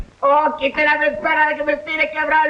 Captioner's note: speaking in Spanish